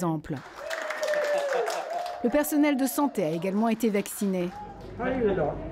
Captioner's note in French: applaudissements